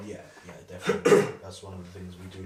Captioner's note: coughs